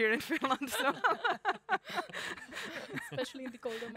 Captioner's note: laughing